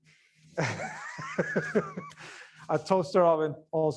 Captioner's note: laughs